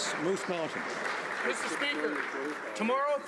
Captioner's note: some Applause